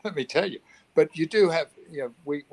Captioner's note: laughs